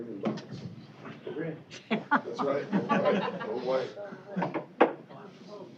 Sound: chatter, laughter

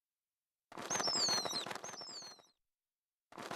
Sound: wings flapping

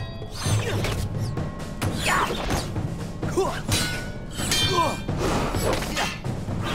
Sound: grunting

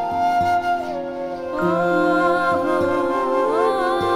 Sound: emotional vocalising

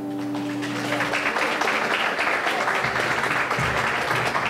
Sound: audience clapping

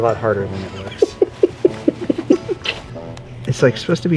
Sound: laughing

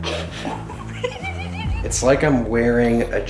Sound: laughing

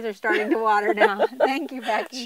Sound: chuckling

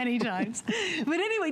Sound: laughter

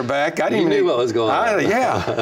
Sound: laughs

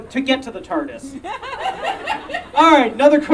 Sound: audience Laughing

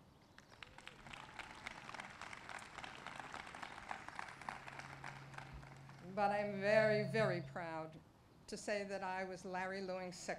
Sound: applause

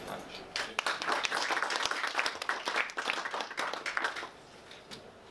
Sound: clapping

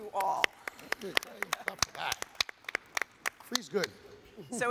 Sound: audience applauds

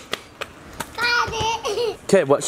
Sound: laughs

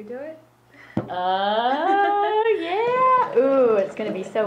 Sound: laughs

